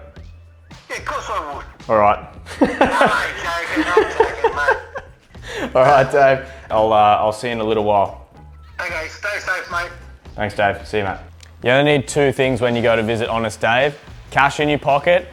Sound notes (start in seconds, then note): 0.7 on phone; 2.5 laughs; 8.5 on phone